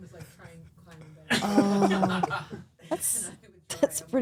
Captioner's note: laughs